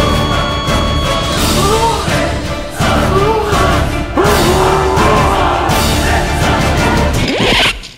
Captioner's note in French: Musique épic; Gémissement chelou de Norman, le retour